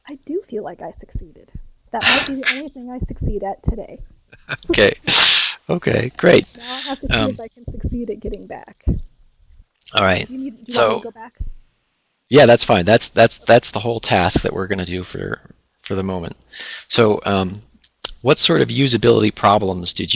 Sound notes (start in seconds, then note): 4.4 laughs